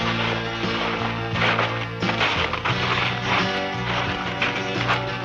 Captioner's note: footsteps thudding